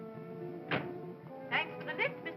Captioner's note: ominous music; car door closes